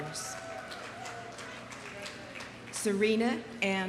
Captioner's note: audience applauding